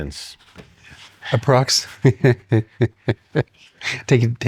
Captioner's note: laughs